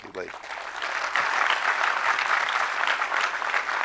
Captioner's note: audience clapping